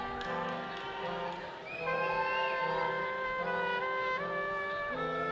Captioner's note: people cheering distantly